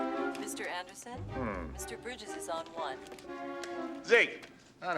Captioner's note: woman On Intercom